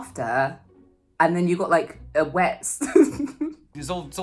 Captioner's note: laughs